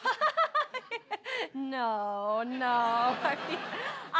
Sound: laughter

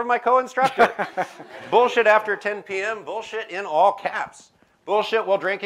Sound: laughter

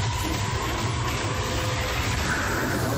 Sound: electricity crackling, big cat growling; wolf howling

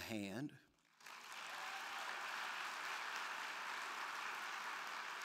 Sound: crowd clapping

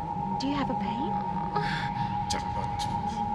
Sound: moan; non-english speech

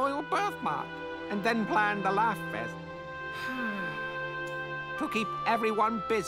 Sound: sigh

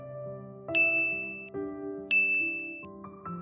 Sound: chimes

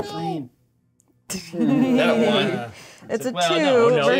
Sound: co-hosts laughing

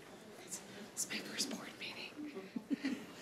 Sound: whispering

